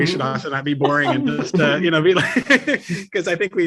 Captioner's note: both laughing